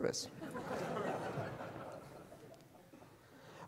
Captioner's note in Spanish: risas de la audiencia